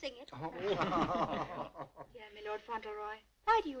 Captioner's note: laughing